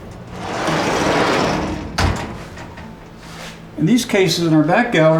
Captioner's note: door rattling